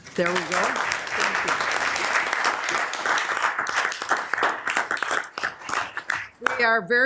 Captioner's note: members applauding; members applauding